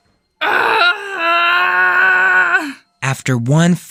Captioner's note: Luna screams